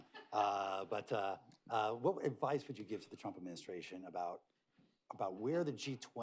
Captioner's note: laughter